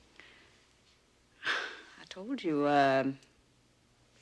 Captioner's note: chuckles softly